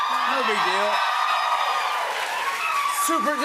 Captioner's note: cheers and applause